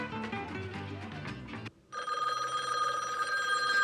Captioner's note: ringing